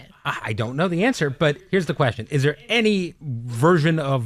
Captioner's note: none